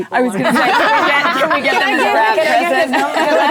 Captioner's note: laughing